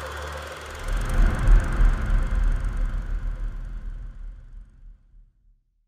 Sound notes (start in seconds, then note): 0.0 film reel rolling